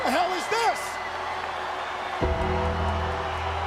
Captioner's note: audience cheers; ominous music continues